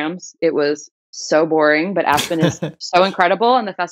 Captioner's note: laughter